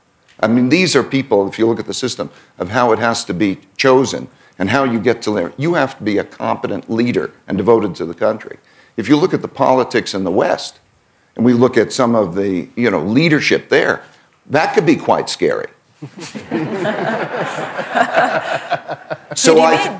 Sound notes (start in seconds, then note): 16.0 laughter